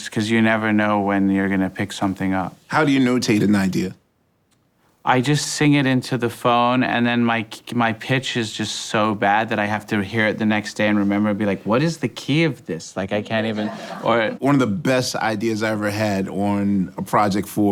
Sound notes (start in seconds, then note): 13.4 people laughing